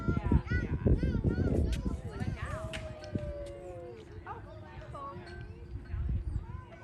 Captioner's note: wind blowing; kids chattering